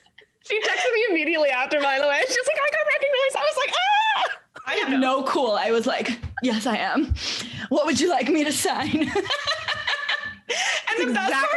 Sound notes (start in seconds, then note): 0.2 laughing; 4.0 screaming; 8.9 laughing